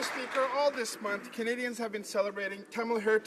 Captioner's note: applause